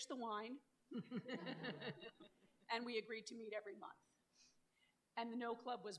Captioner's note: laughter